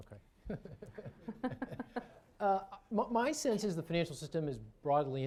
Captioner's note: laughter